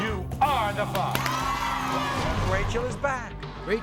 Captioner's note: cheering